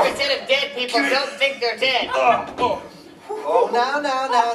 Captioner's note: straining